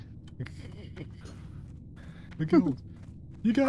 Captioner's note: laughs